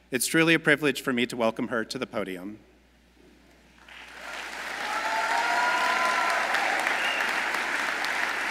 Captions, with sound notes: It's truly a privilege for me to welcome her to the podium. (audience applauds)